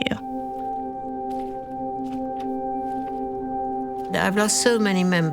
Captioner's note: footsteps